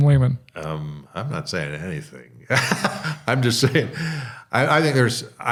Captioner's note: chuckling